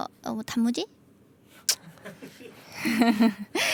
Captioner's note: laughter in background